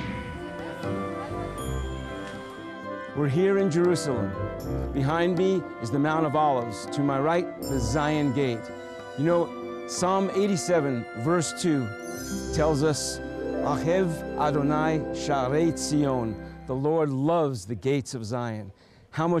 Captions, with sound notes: "Messiah's Gate" We're here in Jerusalem. Behind me is the Mount of Olives. To my right the "Zion Gate" You know, Psalm 87:2 tells us (Speaking Hebrew) The LORD loves the gates of Zion